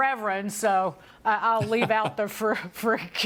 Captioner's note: laughter